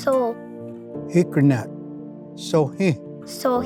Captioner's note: repeats in Cherokee